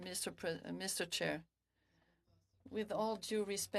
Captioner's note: speaking French